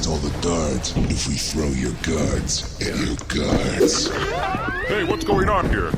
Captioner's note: sounds of more guards being thrown